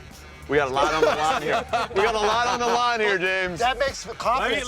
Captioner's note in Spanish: risa